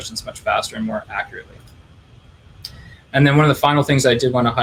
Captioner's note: clicking